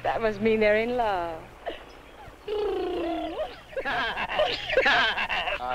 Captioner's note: Pete and Rosina purring and laughing